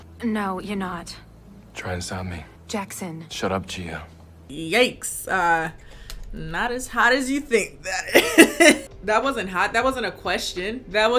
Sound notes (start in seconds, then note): 7.8 laughs